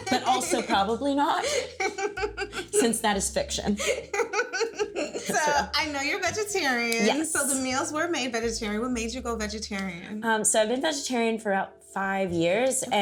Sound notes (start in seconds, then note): 3.4 laughing